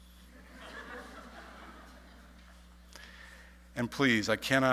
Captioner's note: audience laughing